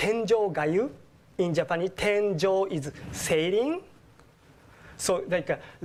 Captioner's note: japanese; japanese